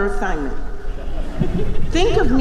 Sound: chuckling

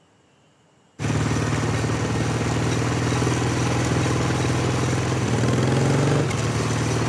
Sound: motorcycle running

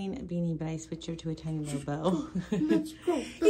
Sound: laughing

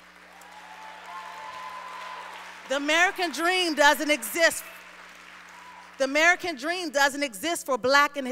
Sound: applause

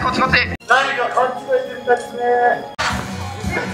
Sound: police speaks in japanese

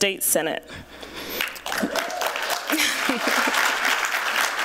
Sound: applause

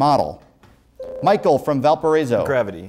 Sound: buzzer

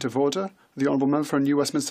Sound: speaking in French

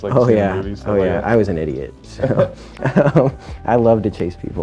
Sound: laughing

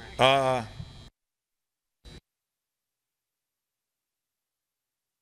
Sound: missing audio

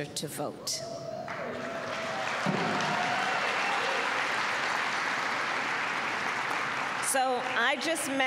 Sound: applause

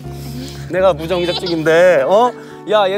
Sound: cry

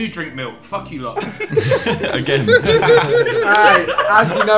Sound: group laughing

